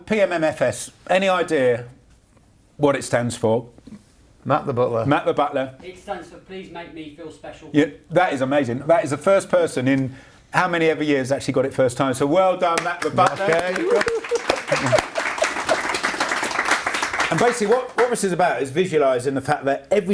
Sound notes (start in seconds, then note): 12.7 applause